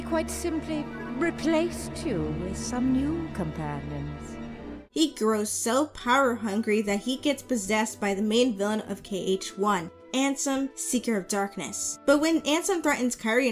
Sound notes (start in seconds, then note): none